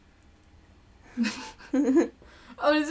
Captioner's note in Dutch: en interviewer lachen